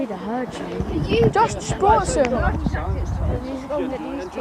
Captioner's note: loud chatter